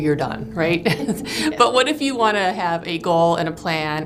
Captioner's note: laughter